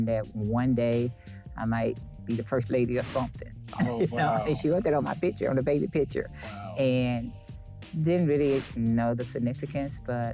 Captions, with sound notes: And that one day I might be the First Lady or something. (air whooshing) Oh wow. You know? And she wrote that on my picture, on the baby picture. Wow. And, they didn't really know the significance,